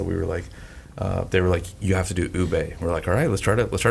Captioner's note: none